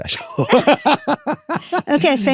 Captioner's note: both laughing